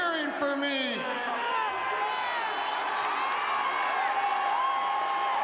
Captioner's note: audience cheering